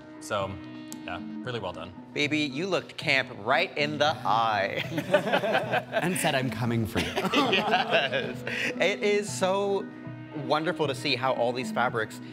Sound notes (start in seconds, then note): 4.8 all chuckling